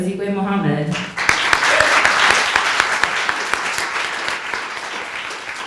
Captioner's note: audience applauding